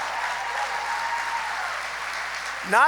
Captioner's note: applause